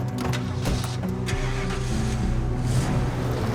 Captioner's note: engine starts